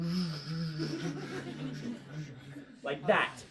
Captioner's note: students laugh